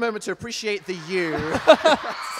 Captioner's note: laughing